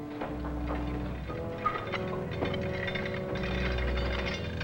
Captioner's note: chain clinks